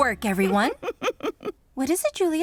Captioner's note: chuckles